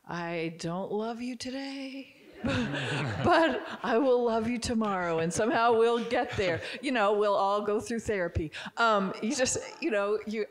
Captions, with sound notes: I don't love you today, (audience giggling) but I will love you tomorrow. And somehow we'll get there. We'll all go through therapy.